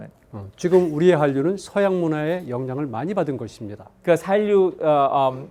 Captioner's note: speaking in Korean